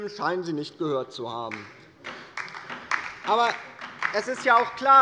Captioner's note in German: Beifall bei der LINKEN